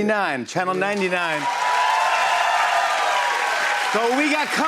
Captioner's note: cheers and applause